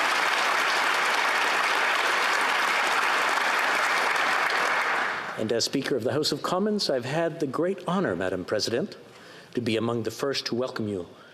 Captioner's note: applause